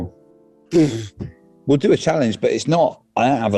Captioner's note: sighs